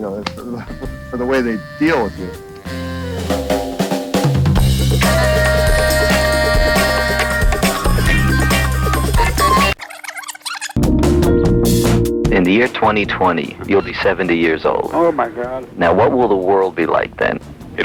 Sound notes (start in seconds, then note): 2.6 upbeat music; 10.1 tape squealing